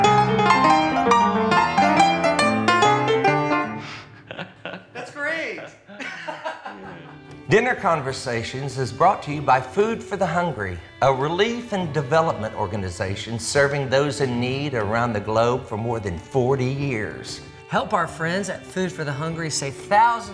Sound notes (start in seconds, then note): 3.9 laughing